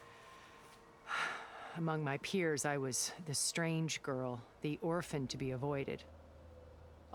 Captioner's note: sigh